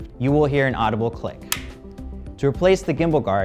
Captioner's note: click